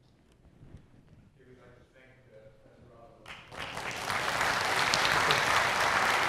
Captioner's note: applause